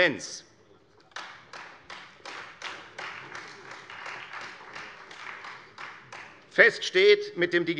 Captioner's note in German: Beifall Freie Demokraten